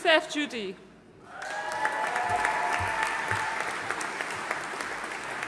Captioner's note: audience cheering and applauding